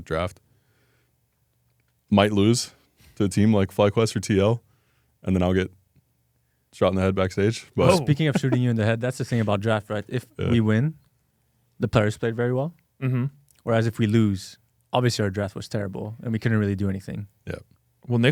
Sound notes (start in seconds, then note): 7.8 laughs